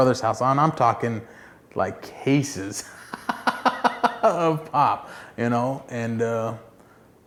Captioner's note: laughs